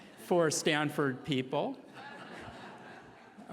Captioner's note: laughing